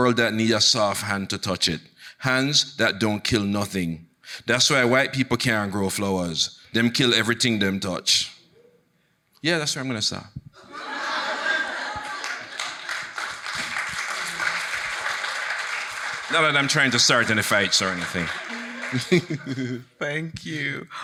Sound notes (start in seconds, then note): 10.6 audience laughing; 12.9 audience applauding; 18.5 chuckling